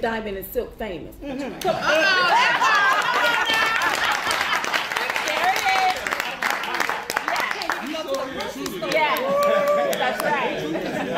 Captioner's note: applause